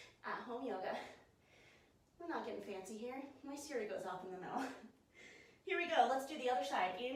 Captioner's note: laughs